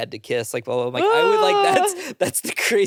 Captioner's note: groans